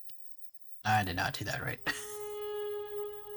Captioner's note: tired chuckle